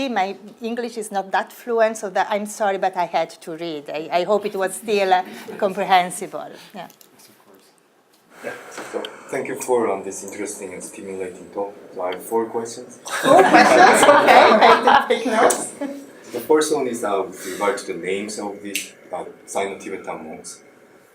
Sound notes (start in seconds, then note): 13.0 audience laughs